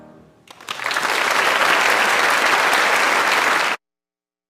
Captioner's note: audience applauding